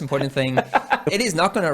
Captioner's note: laughing